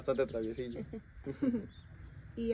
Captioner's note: laughter